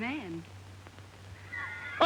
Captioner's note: laughing